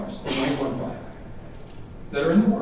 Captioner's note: thwacking drowning out speaker